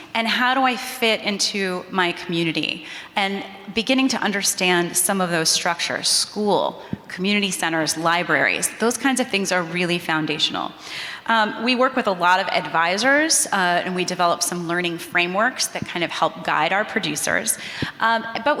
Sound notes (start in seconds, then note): none